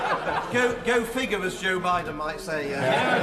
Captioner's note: laughter